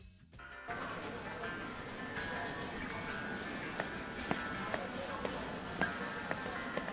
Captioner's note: grocery cart rattling, ambient supermarket noises